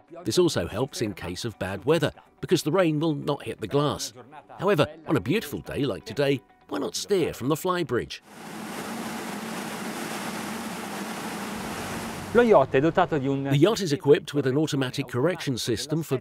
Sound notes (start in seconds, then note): 8.3 waves roaring; 12.4 speaking in Italian